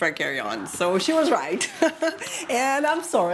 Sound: laughs

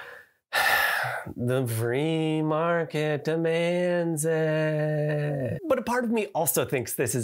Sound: heavy sigh

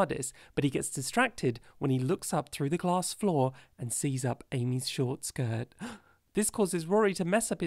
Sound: gasp

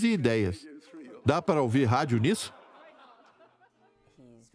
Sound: crowd laughing

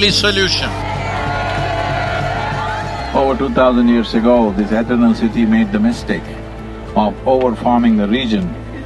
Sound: cheering

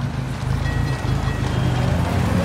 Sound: tram bell rings

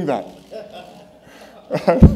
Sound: laughter

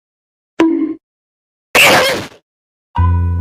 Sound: bonk; goofy Noises

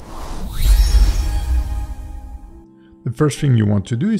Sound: lines whooshing; magical twinkling; logo thudding

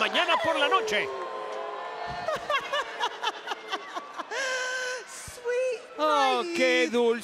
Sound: laugh

